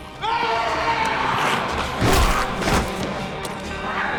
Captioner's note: yelling